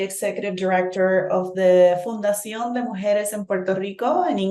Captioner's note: speaking in Spanish